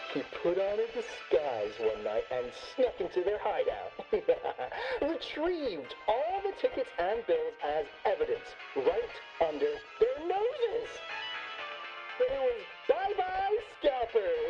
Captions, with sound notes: he put on a disguise one night and snuck into their hideout. (laughs) Retrieved all the tickets and bills as evidence right under their noses. Oh, bye-bye, scalpers.